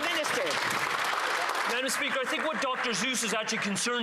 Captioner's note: some Applause